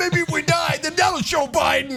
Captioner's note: laugh